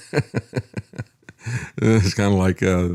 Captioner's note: laughs